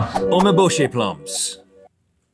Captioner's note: voiceover